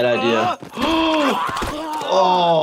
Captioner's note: doctor gasps